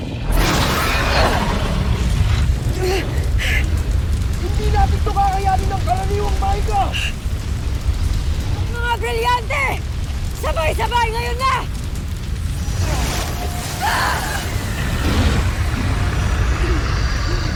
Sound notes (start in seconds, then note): 0.0 screeching roar, fire blast; 0.1 guttural roar; 0.3 grunts; 7.7 fire blasting; 12.1 grunts; 12.1 sparkling whoosh; 12.7 growls; 14.9 reverberating chimes, spellbinding whoosh